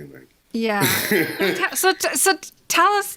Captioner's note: laughs